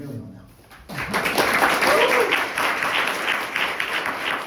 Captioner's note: audience applauds